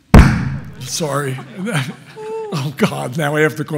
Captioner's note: loud thump; audience chuckling